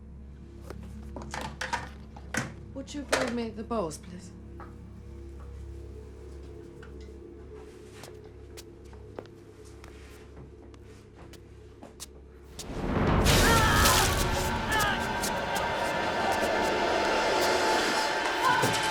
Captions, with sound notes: - Would you bring me the bowls, please? (screaming) (dramatic music)